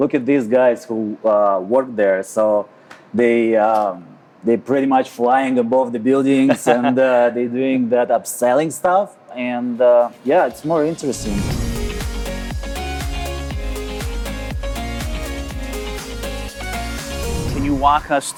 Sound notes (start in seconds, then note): 6.3 laughing; 10.2 bright upbeat music